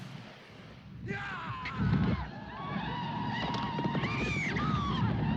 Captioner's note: yelling